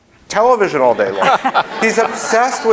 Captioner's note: laughing